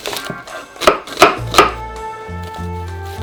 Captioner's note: knife chopping